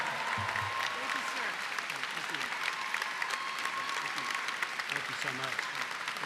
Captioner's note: applause